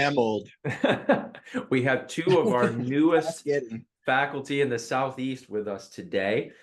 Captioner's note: laugh